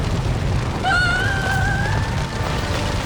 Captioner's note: Nikki screams